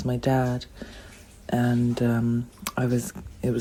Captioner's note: water sound